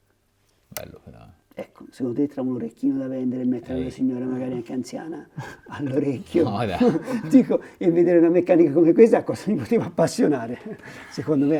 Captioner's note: laughts